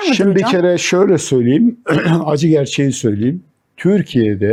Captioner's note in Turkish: boğazını temizler